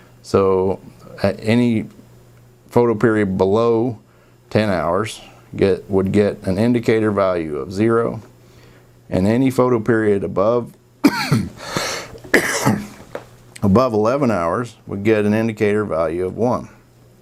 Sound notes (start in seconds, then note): 11.0 coughing